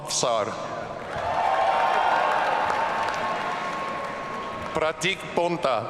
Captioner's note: audience cheering